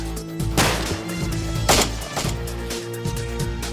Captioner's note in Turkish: si̇lah sesleri̇